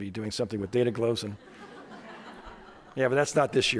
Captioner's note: crowd laughing